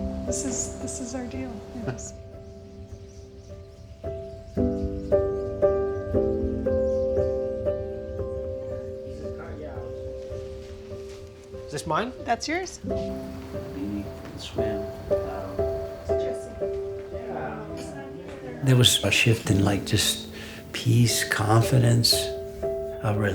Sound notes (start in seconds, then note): 4.5 gentle solemn music continues; 13.1 family faintly speaking